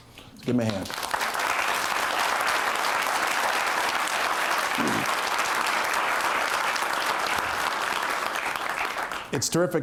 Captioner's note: applause